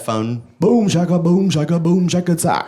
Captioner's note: beat boxing